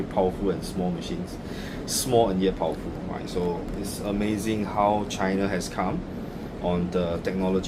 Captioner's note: machine